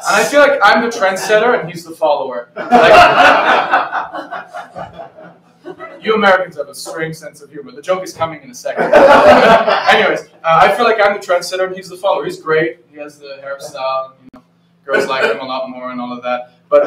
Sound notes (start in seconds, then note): 2.5 laughter; 8.8 more laughter